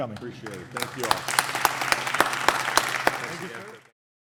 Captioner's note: applause